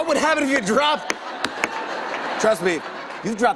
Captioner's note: laughter